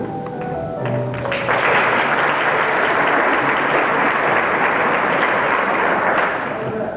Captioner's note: applause